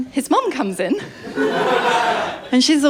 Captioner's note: laughter